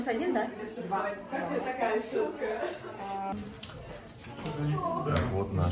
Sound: people's voices

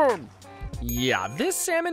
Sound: bell dings

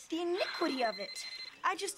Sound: phone ringing

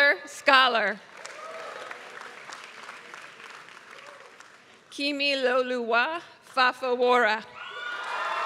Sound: applause

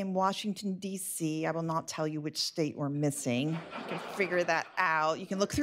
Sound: laughter

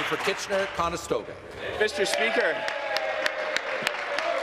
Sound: applause

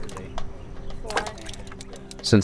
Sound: water sloshing

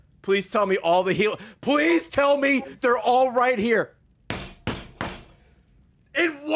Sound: slams desk

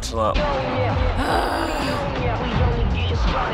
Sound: groans

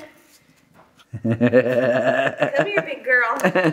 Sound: laughter

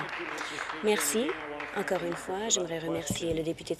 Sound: applause

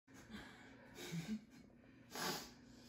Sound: laughing

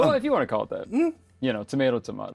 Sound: giggles

